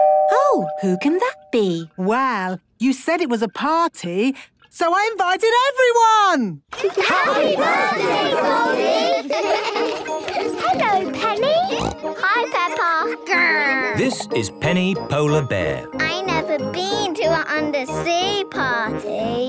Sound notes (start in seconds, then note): 9.4 laughter; 11.6 snorting